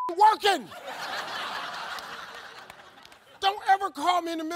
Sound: beep; audience laughs

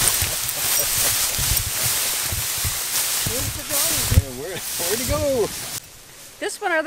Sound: chuckles

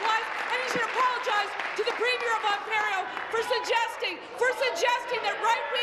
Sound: applause

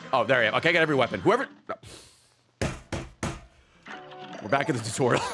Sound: slams desk

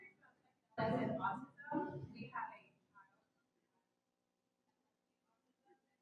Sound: participant speaking faintly

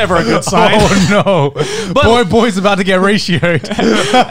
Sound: chuckling

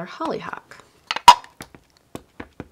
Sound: lid clinking; ink pad tapping

